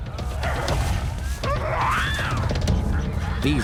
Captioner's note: monkey shrieks